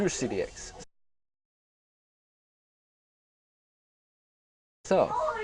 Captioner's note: silence